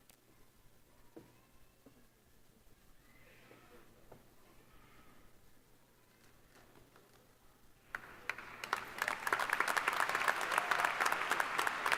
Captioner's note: applause